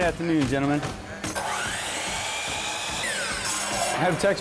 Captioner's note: sawing